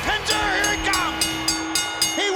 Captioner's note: bell dinging